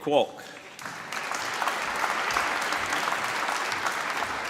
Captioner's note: applause